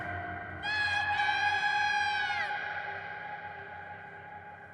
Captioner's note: screaming